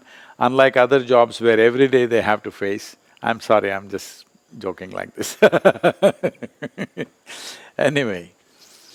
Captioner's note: laughs